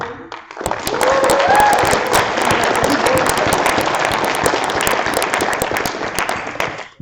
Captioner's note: applause